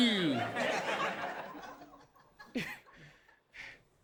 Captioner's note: audience laughing